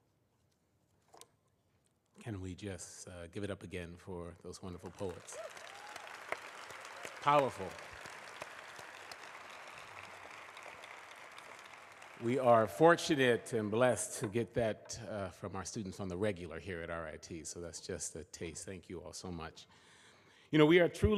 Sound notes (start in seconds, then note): 4.6 applause